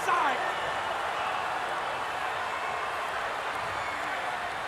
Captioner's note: crowd yelling